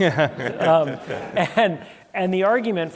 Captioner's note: laughter